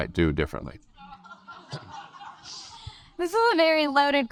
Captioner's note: audience laugh